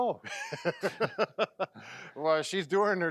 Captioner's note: laughing